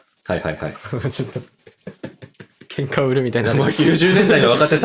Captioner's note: laughs